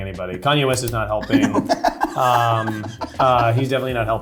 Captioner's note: laughing